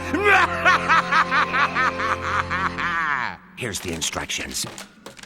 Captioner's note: laughing maniacally